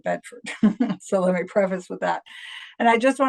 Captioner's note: laugh